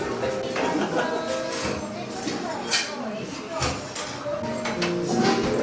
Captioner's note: haha